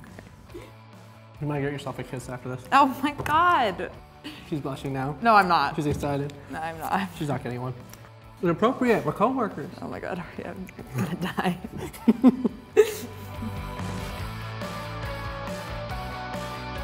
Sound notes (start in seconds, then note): 10.7 laughing; 13.2 warm rock music